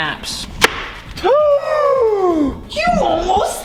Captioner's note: gasps